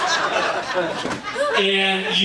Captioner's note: audience laughing